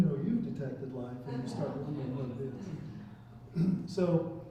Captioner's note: chuckling